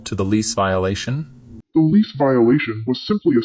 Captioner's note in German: verzerrt